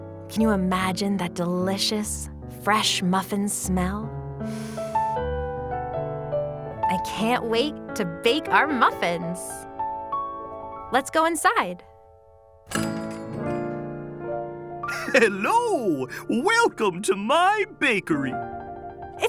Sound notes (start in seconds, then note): 12.6 door bells jingle